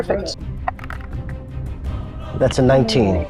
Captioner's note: die rattling